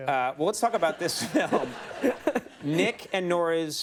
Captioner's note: Michael laughs